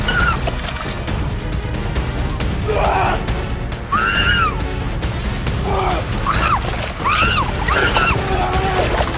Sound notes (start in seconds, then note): 2.3 anthony and elizabeth scream; 5.1 anthony grunts and elizabeth screams